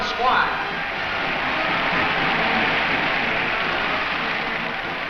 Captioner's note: crowd cheers